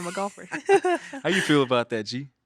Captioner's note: both chuckling